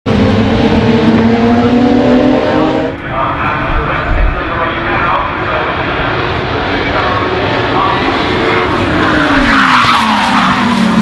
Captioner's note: car engines